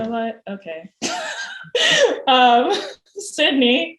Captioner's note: laughs